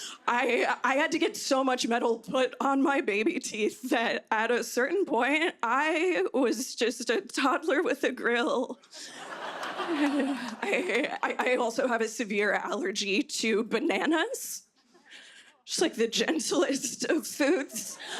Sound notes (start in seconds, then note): 9.0 laughter